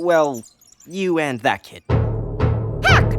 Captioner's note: reverberating banging